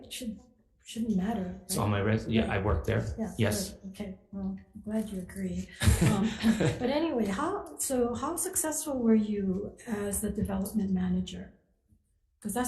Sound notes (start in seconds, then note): 5.8 laughs